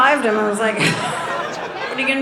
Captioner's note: audience laughing